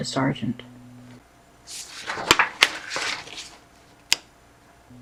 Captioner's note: flipping through pages